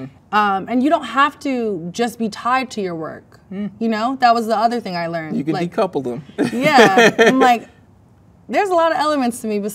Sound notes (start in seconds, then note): 6.4 laughs